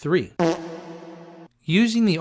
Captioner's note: fart noise